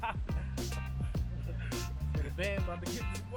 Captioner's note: laughs; soft jazz music